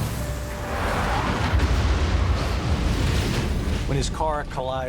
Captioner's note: tires screech; bang